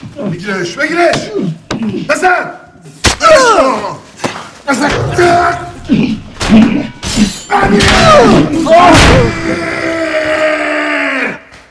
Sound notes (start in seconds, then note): 2.8 sword swipe hitting body; 5.5 painful groaning